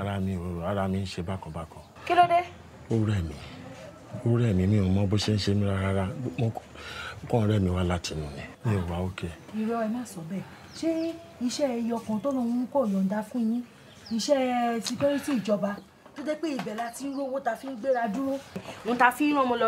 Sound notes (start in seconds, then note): 0.1 both speaking in foreign language; 3.5 speaking foreign language; 9.6 speaking foreign language